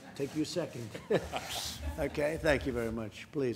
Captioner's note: laughter